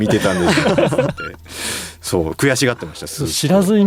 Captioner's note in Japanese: 笑い